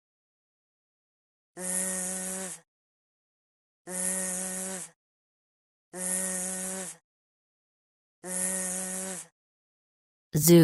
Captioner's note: con zumbido